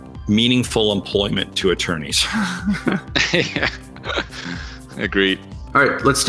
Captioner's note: laughs